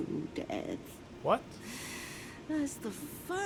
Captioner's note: despondent breath in